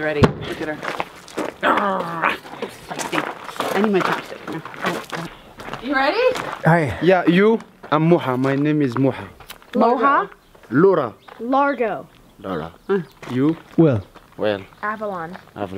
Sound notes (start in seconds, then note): 1.6 playfully growls